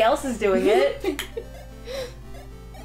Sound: laughter

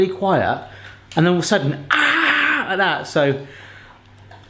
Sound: yelling

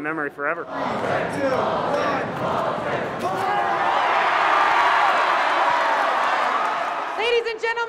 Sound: crowd cheers

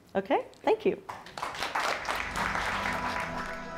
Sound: applause; light pleasant music

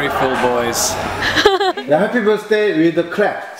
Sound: laughs

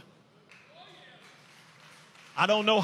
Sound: inmates clap

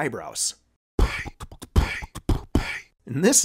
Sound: ElectroBOOM beatboxing like a boss

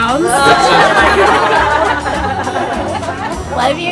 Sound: people laughing

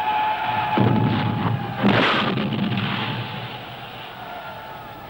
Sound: explosions booming

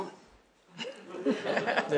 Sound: laughter

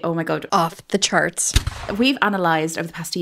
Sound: cannon firing

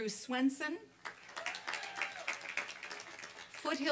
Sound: applause and cheering

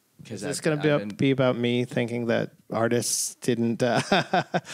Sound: laughter

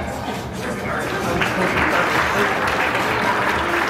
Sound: crowd applaudes

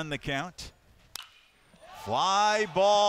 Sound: bat hitting ball

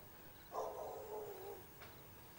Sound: dog barking

